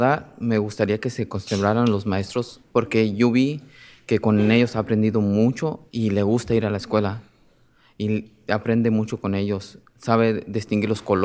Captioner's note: speaking in spanish